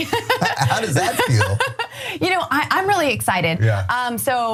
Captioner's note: laugh